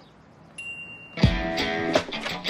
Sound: device chiming; rock guitar music

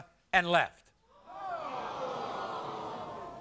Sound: audience gasps

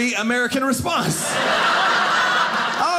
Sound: audience laughing

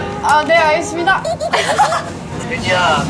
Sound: laughing

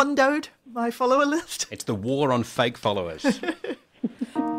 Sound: laughter

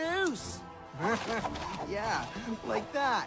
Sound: evil laugh

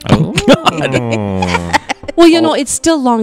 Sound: laughing

